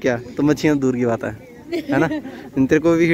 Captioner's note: chuckles